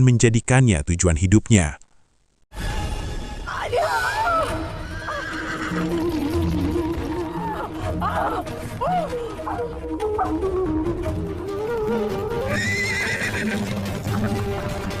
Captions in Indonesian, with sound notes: menjadikannya tujuan hidupnya. [berteriak] [menangis]